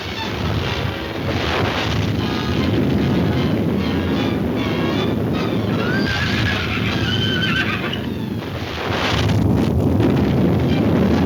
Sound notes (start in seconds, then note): 4.2 horse whinnying; 7.4 crashing